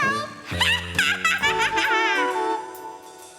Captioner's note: cackling